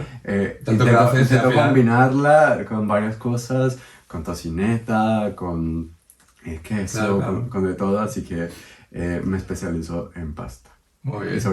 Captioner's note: laughs